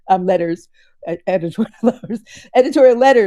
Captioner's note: chuckles